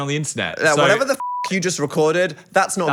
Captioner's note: beep